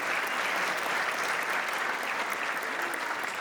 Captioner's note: audience applauds